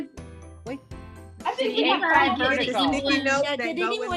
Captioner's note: group chattering